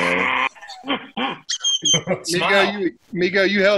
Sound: bird sounds

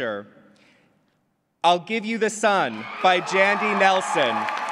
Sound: applause

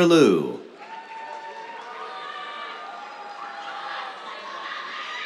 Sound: cheers, applause

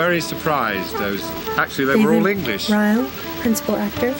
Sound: none

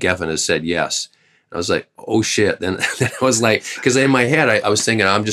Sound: laughter

